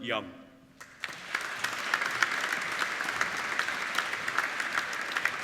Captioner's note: applauding